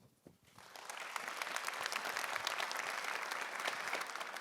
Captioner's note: audience applauding